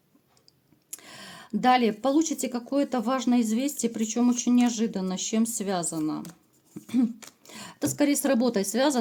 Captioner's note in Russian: откашливается